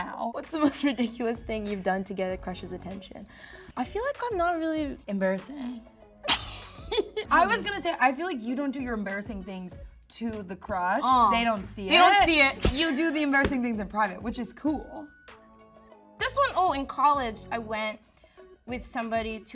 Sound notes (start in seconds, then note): 6.3 Ayo laughs